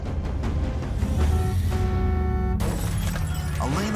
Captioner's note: car horn honks